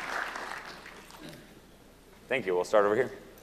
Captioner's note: applause